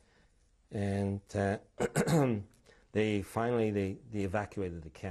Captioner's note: clears throat